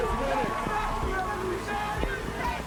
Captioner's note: crowd cheering